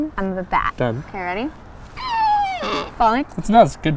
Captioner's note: squeals